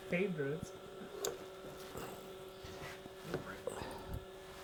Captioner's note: machine hums